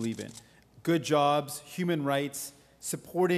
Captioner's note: camera shutters clicking